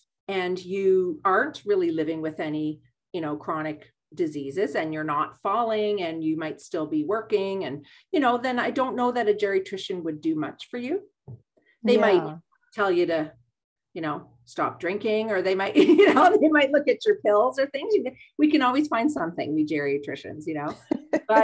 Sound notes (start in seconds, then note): 15.8 laughs